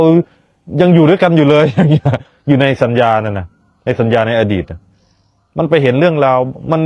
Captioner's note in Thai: เสียงหัวเราะ